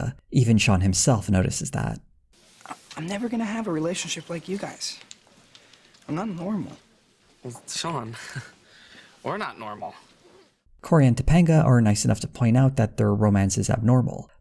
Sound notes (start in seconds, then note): 7.5 chuckles